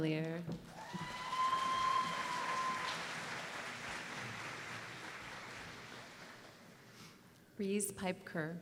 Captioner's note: applause